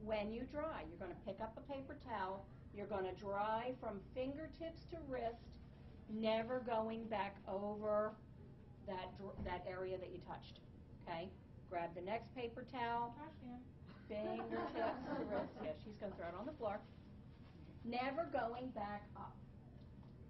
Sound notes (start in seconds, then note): 14.2 laughing